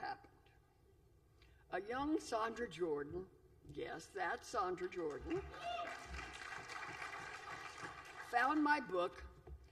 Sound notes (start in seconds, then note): 5.0 applause